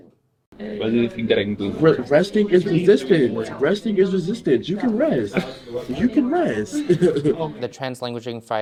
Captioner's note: laughter